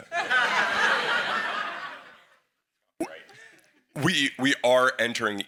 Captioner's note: everyone laughs